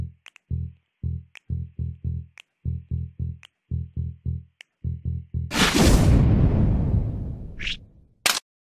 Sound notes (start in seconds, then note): 5.6 dramatic thud; 8.0 clunk